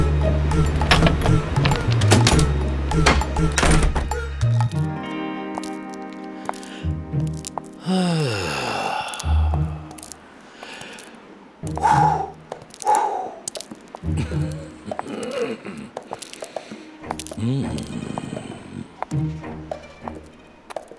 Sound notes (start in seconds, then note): 7.7 sighs; 15.7 chuckles